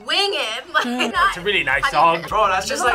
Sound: laughs

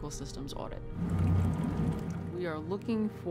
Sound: water pouring into container

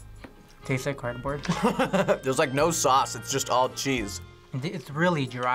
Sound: laughs

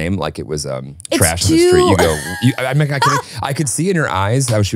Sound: laughing

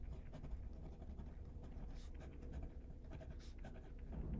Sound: pen rasping

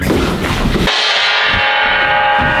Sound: dong

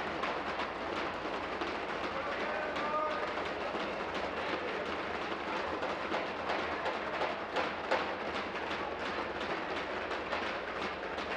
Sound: tapping of desks

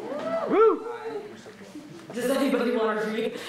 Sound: audience cheering

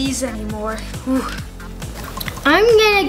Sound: sighs

